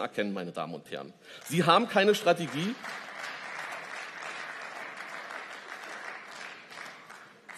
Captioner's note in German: Beifall